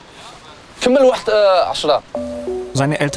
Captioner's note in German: Er sagt etwas auf Arabisch